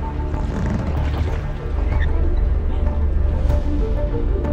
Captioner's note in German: Ruder knarren